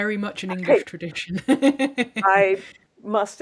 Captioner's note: laughs